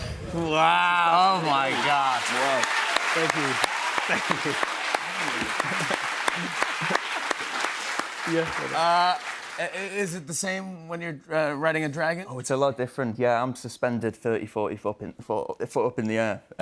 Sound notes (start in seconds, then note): 3.0 cheers and applause; 5.1 chuckling